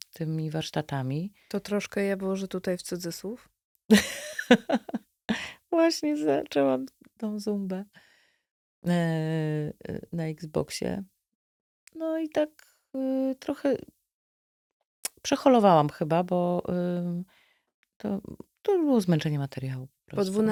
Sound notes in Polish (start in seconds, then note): 3.9 śmiech